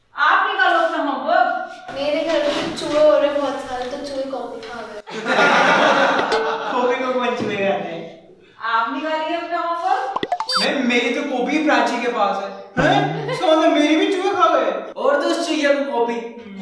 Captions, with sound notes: You take out your homework We have loads of rats at our house so they ate my copy (Laughing) Rats ate your copy You take out your home work Ma'am my copy is with Prachi Hhuh? So rats ate my copy too You shouldn't have given your notebook to her